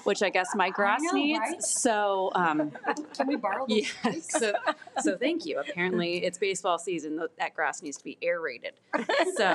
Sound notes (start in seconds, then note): 0.0 women murmuring; 3.6 all laughing